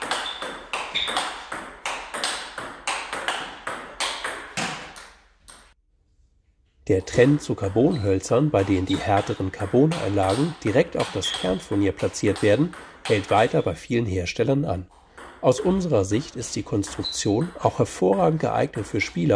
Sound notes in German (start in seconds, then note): 0.9 Spielgeräusche